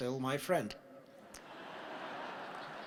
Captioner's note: laughter